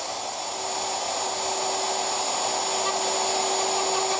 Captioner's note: sanding noises